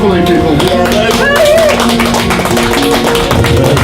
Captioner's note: audience applauds; tense music playing